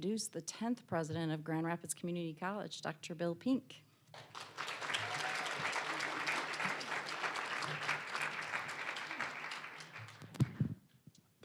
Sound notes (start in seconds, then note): 4.1 applause, cheering; 6.9 applause